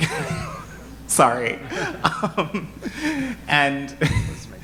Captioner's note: laughs